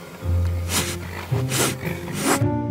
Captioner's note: snake hiss